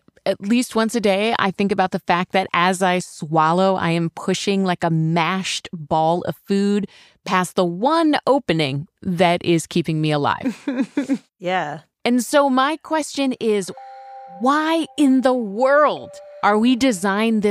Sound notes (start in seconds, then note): 10.4 laughs